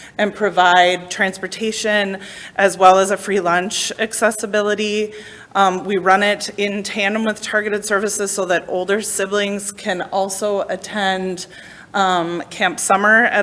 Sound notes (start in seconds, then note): none